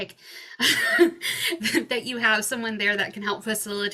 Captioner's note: chuckles